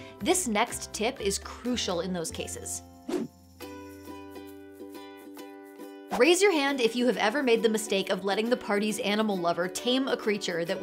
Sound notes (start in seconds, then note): 3.1 air whooshes; 3.1 calm upbeat music